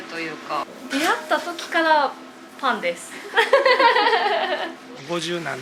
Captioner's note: laughs